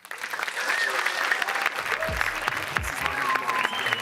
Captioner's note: audience applauding